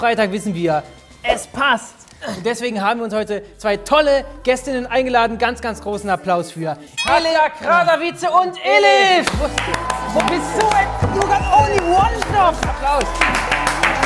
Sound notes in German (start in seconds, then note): 11.5 Jubel, Applaus